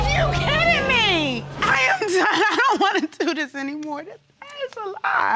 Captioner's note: sobbing